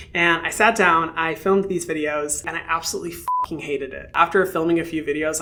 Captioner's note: beeps